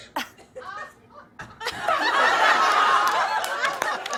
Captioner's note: laughter and applause; cheers and applause